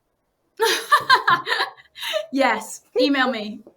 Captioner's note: laughs